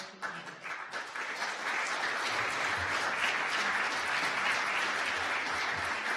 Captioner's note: audience applause